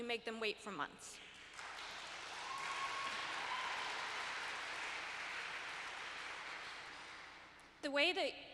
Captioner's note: applause - Cheering